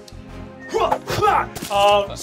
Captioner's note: splattering